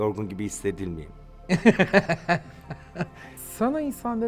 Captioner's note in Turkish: Gülüyor